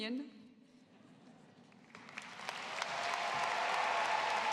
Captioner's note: cheering, applause